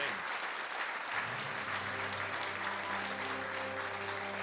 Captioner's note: applause